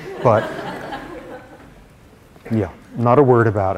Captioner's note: laughter